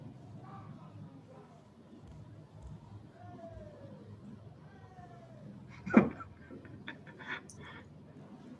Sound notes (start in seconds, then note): 5.6 chanting; 7.3 chuckles